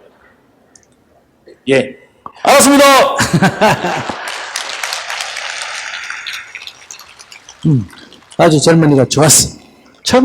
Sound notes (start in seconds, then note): 3.2 audience Laughter/Audience Applause